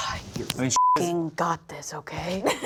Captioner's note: beep